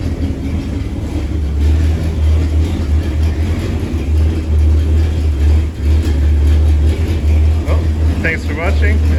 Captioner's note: engine Noise